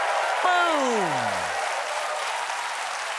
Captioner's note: cheers and applause